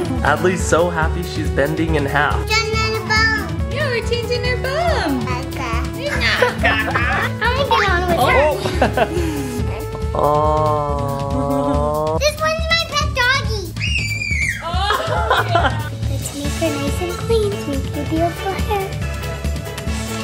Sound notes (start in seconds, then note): 9.5 laughter; 13.8 screaming